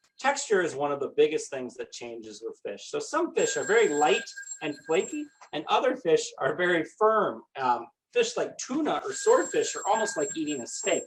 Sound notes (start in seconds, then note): 5.6 phone ringing; 8.9 phone ringing